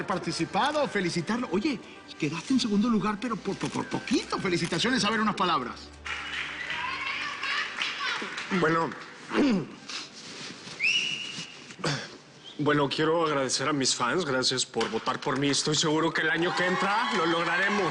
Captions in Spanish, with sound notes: POR HABER PARTICIPADO, FELICITARLO. OYE, QUEDASTE EN SEGUNDO LUGAR, PERO POR POQUITO. FELICITACIONES. A VER, UNAS PALABRAS. - BUENO... [Carraspea] [Silbido] BUENO, QUIERO AGRADECER A MIS FANS. GRACIAS POR VOTAR POR MI. ESTOY SEGURO QUE EL AÑO QUE ENTRA